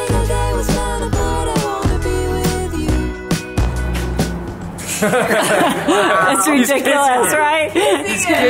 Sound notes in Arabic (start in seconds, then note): 0.0 موسيقى بوب مبهجة; 4.8 الجميع يضحك